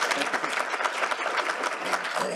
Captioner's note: applause